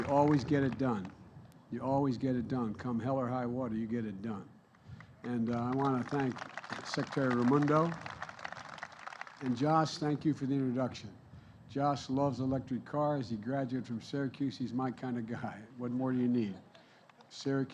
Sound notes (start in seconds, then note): 5.2 applause